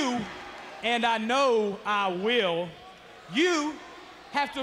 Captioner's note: crowd chatter